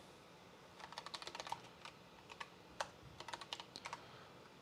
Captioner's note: keyboard clicking